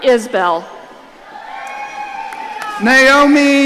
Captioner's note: audience cheering